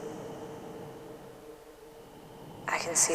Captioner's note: hollow breathy tone